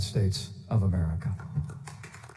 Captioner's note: applause